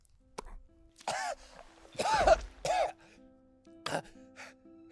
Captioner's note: coughs